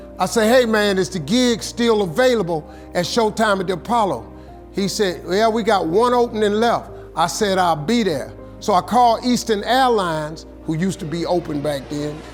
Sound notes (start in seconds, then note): none